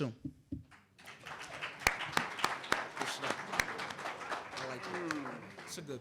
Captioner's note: applause